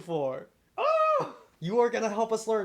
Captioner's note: excited scream